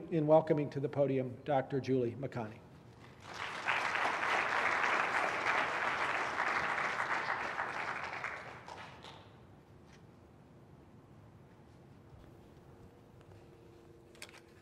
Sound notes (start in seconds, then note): 3.1 applause